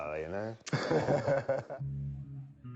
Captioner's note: laughs